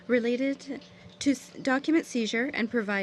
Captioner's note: speaking French